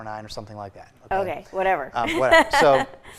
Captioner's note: laughs